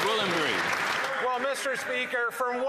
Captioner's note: applause